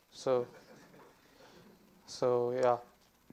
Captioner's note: student laughs